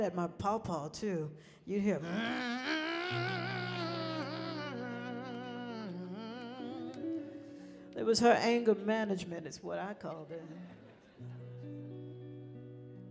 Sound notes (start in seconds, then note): 2.0 angrily humming